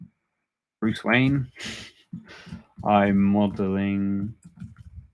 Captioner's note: chuckles